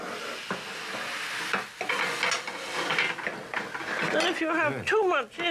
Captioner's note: scraping and clattering